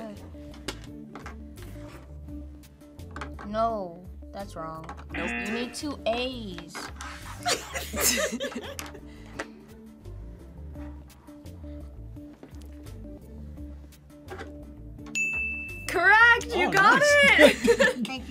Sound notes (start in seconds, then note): 5.2 buzzer; 7.4 laughs; 15.1 bell rings; 16.7 laughs